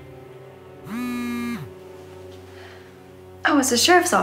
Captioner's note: cellphone buzzing